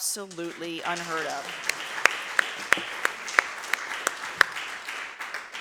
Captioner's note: audience applauds